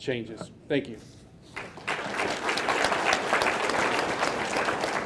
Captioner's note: audience clapping